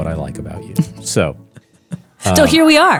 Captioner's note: chuckles